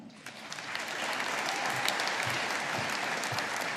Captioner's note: audience applauding